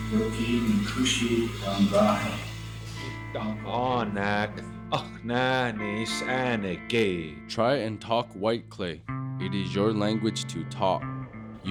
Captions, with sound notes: (speaking Native language) - [Voiceover] Try and talk White Clay. It is your language to talk.